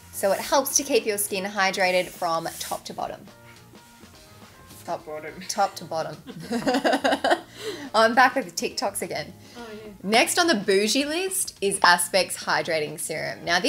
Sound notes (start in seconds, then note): 6.2 laughs